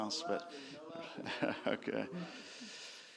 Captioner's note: laughter